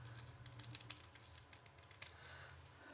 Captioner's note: none